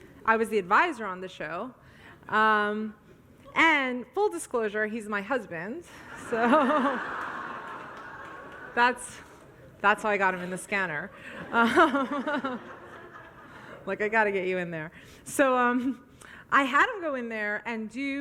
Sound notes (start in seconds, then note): 2.5 audience laughs; 6.4 laughs; 7.9 audience laughs